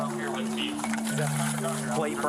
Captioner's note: indistinct chatter